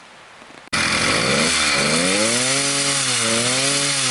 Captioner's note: engine revving